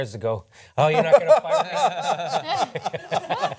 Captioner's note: laughter